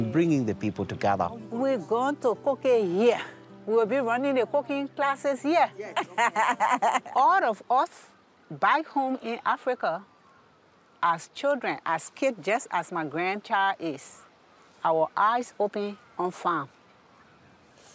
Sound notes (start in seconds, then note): 5.8 laughs